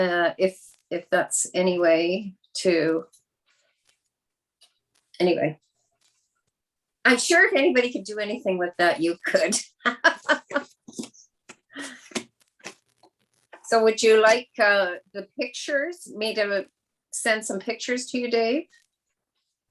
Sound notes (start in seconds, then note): 9.3 chuckles